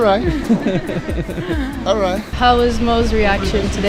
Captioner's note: laughter